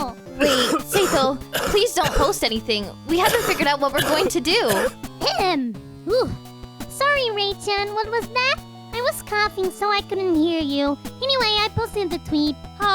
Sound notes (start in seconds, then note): 0.4 talking over heavily coughing in the background; 4.0 clears throat